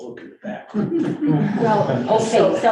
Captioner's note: group laughing